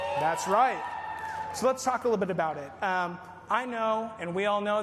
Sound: applause

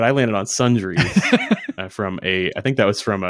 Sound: laughing

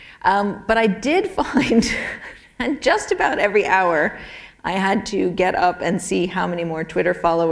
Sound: chuckle

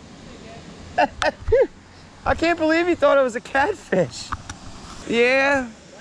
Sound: laughter

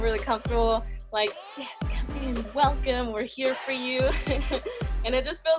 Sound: laughs

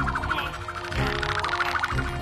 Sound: grunts of effort

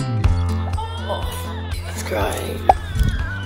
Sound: baby crying

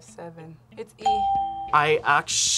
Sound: bell rings

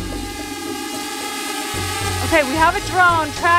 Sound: drone buzzing

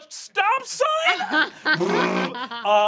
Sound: laughing

